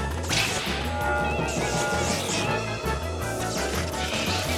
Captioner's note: electricity crackling